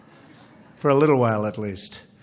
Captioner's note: laughter